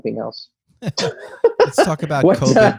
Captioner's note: laughter